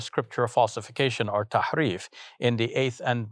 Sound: speaking foreign language

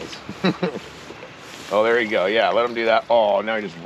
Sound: chuckling

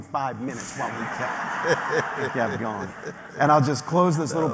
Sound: laughter

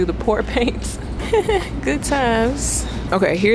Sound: giggles

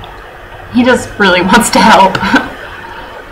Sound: laughing

